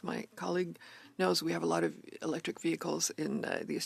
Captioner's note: speaking French